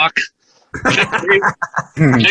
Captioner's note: laughter